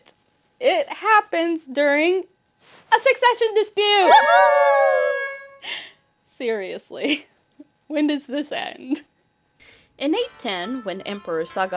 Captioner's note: air horn and cheers